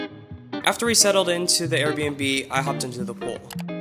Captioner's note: voiceover